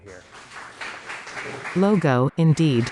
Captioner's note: applause